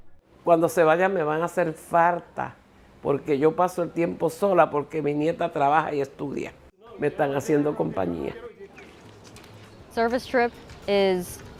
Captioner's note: speaking spanish